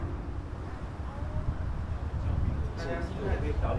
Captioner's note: sound of sea breeze